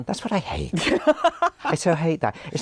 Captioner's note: laughs